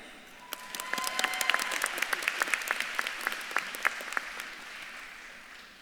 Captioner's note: audience claps and cheers